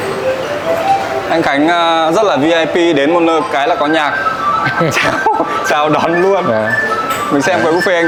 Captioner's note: laugh